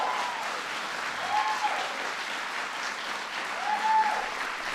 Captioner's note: applause